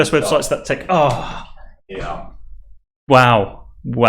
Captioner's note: sighing